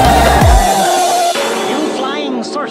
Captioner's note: bang!